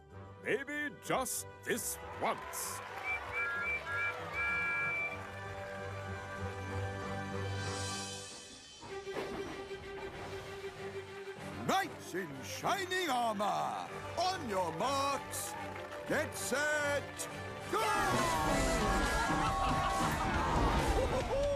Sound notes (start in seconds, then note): 1.8 crowd Cheers; 2.8 engines Whistle; 17.7 all Cheering